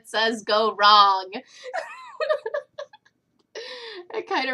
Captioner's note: laughter